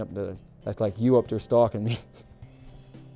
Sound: chuckling

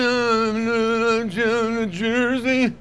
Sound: garbled humming

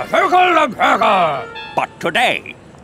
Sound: speaking in foreign language

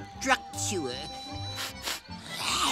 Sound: sniffs

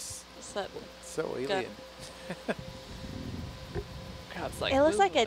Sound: scientist chuckling

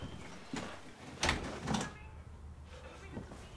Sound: door closes

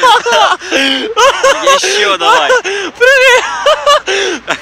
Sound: hysterical laughter

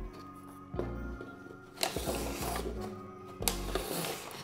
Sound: cardboard scraping

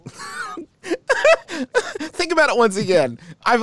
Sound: laughs

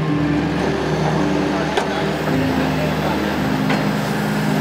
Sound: tow line ratcheting

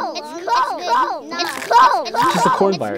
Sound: computer glitching

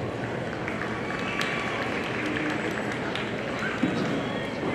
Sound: audience applauding

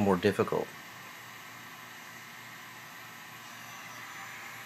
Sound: heat gun whines

